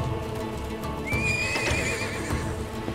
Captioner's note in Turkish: At kişneme sesi; Kapı açılma sesleri